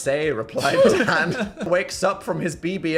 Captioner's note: laugh